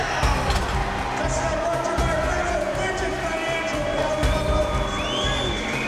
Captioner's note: areana Announcer and Crowd Noise; intense Music